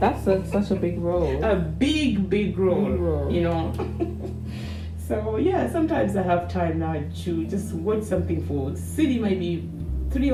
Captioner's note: hmmhmh